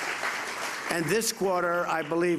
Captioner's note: applause